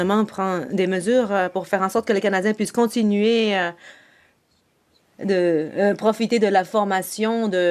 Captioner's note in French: voix de l'interprète